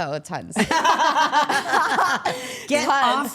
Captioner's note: all laughing